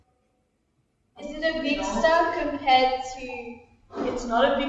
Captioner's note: off screen student voice